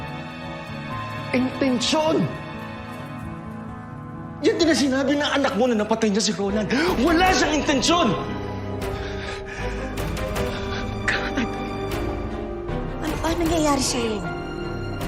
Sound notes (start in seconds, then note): 8.6 breathing heavily; 8.7 stirring music playing